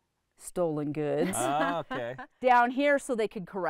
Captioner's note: laughing